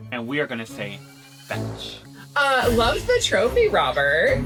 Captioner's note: none